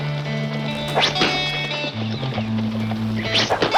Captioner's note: arrow whizzing